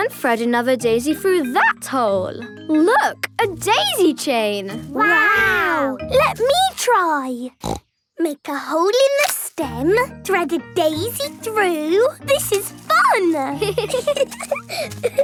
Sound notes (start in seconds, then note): 7.6 snorting; 13.3 giggling